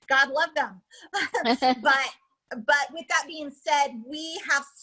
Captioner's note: laughs